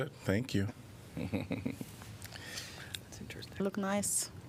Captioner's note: laughter